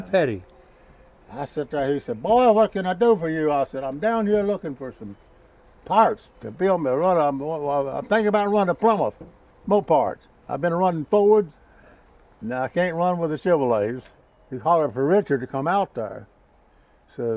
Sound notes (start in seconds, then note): none